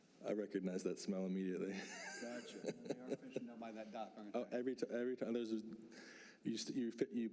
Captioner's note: laughs